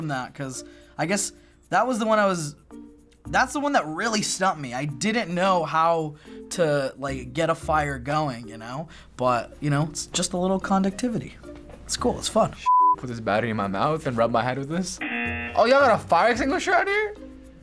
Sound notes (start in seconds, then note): 15.0 buzzer